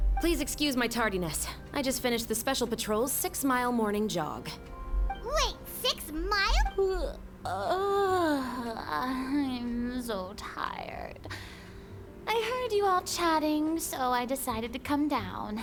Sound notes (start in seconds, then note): 7.4 groans